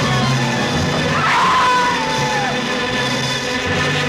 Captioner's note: screaming